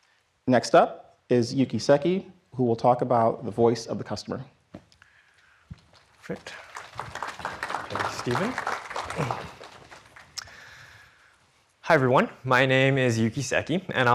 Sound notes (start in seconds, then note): 5.9 audience applauds